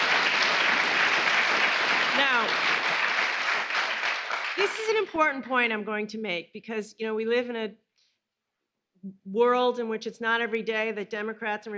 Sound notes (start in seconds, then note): 5.0 applause